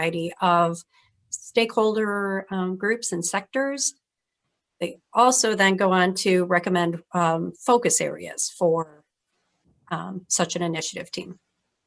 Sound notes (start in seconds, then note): none